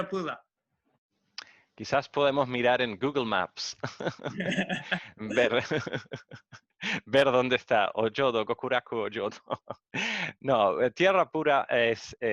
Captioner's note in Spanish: Risas